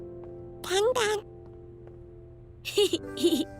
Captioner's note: baby tiger babbling; laughing